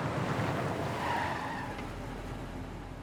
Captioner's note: tire squeal